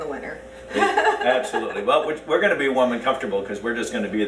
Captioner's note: laughs